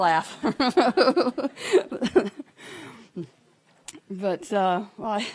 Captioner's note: laughing